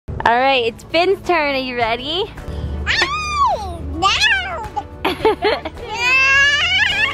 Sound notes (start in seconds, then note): 2.9 squeals; 5.1 giggles